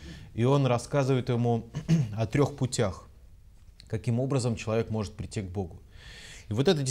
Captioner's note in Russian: откашлялся